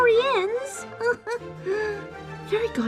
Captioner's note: giggle